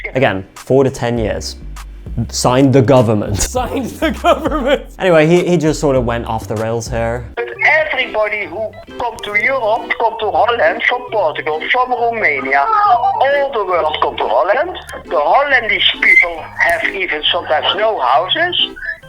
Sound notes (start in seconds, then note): 3.4 laughing